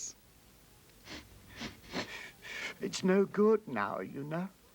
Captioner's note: sniffling